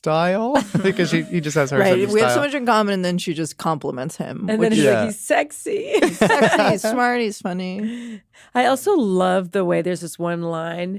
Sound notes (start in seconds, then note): 0.6 chuckles; 6.0 all laugh